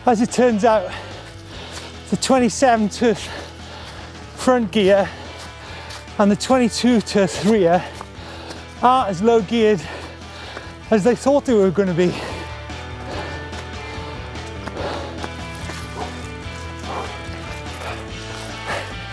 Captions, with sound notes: As it turns out, the 27 front gear and the 22 (murmurs) are as low-geared as they thought they were gonna be. (panting heavily)